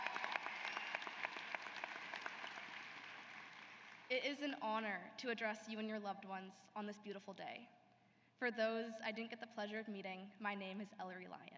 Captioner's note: cheers and applause